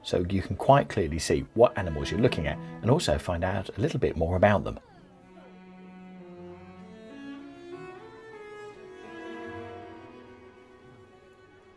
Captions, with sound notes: So you can quite clearly see what animals you're looking at, and also find out a little bit more about them. (background chatter) (slow violin music continues)